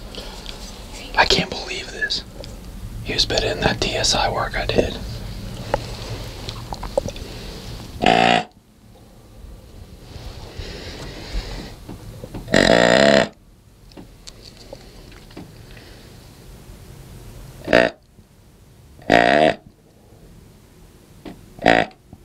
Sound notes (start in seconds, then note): 8.0 sound of grunt call; 11.9 second grunt call, louder; 16.7 sound of grunt call; 21.6 sound of grunt call